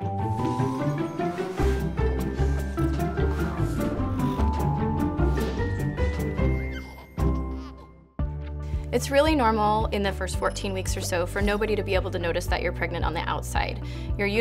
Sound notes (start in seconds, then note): 0.0 upbeat music; 6.4 baby giggle